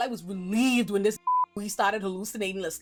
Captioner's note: beep